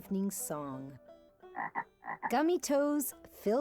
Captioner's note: frog croaking